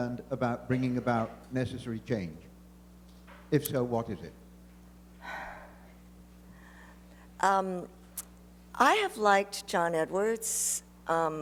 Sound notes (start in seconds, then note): 5.2 sighs